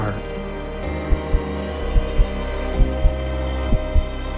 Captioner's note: heart beating